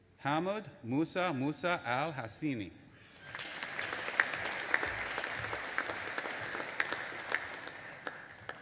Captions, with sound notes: Hamood Moosa Moosa AL Huseini. (AUDIENCE APPLAUDING)